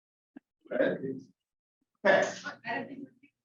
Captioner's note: muffled chatter